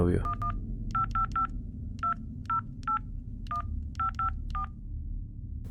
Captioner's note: phone dialing